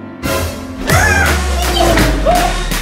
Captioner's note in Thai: กรีดร้อง